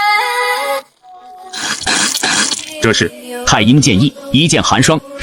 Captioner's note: coughs